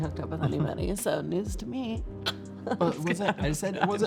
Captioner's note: laughs